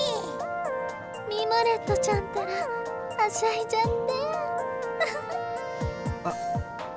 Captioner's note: giggle